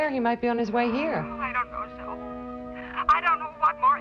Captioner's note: on phone